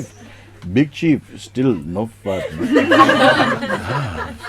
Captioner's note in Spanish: Risas